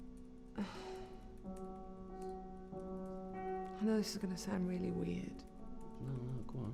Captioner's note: sighs